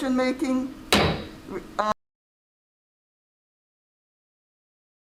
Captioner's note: gavel strikes sounding block